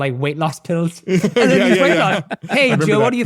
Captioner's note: laughs